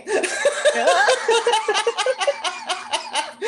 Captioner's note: laughter